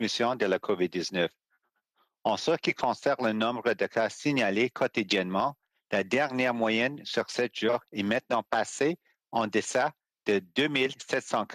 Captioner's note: speaking French